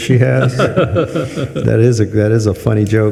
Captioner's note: participants laughing